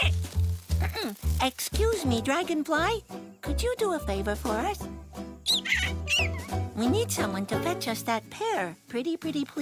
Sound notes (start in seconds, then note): 5.5 squeaks